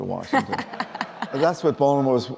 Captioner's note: laughing